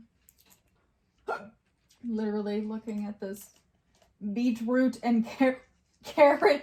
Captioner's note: hiccups